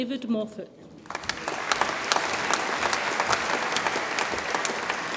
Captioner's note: audience applauds